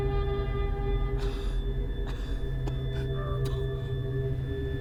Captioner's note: coughing